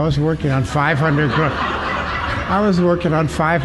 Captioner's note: laughter